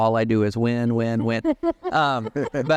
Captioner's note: laughter